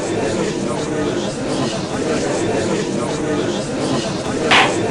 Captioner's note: gallery chattering; gavel slams!